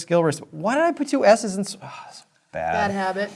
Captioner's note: sighs